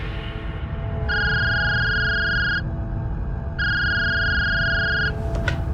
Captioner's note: phone ringing